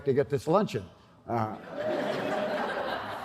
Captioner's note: laughter